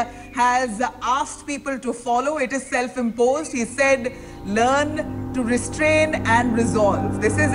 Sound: news in the background

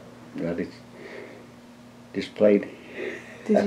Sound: laughs

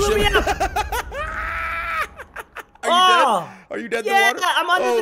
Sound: laugh

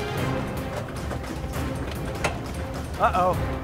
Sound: gas pedal thudding; blasters clattering

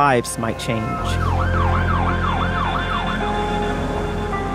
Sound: sirens wailing; melancholy music

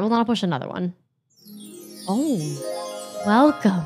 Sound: chimes ringing

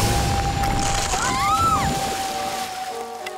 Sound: screaming

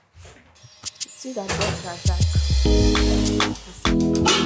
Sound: none

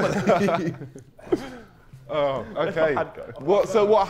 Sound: Sidemen laughing

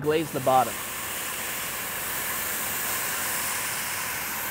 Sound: sizzling

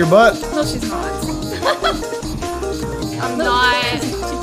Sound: giggles

